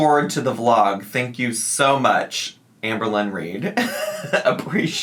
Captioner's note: laughing